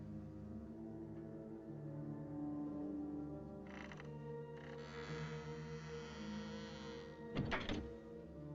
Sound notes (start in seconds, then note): 4.5 creaking